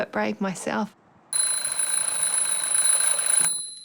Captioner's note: alarm clock rings